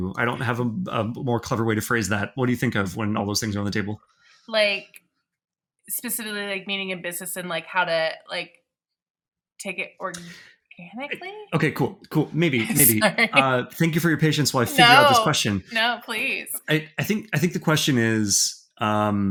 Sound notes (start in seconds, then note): 14.6 chuckling